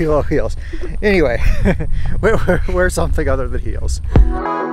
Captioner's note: chuckles; calm upbeat music